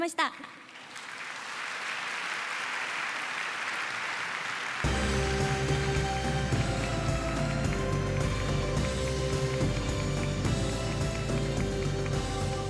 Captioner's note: applause